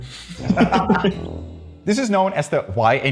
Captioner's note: laughs